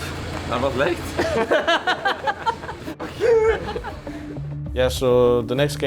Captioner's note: players chuckling